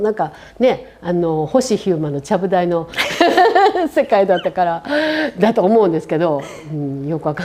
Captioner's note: laugh